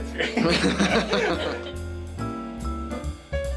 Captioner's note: lauging; upbeat music